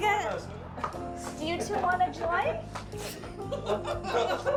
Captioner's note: laughs; both laughing; drunken man laughing